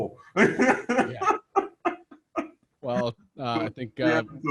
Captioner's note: laughs